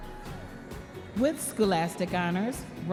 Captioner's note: audience members cheering